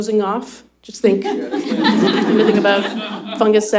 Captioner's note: laughter